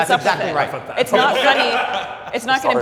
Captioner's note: laughing